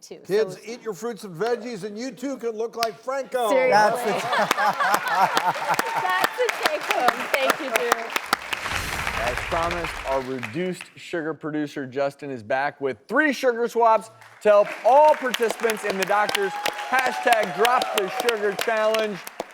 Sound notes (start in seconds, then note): 3.8 applauding; 5.1 laughing